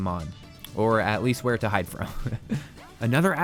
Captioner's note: laughs